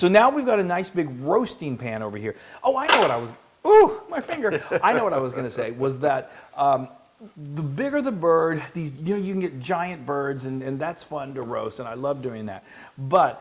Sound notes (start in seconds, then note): 4.5 laugh